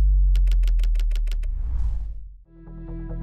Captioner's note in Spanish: máquina de escribir